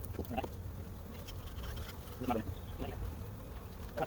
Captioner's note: sped up talking; bees buzzing; sped up talking